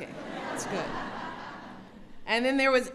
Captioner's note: laughter